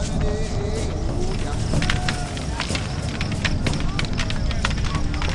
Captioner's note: staves clack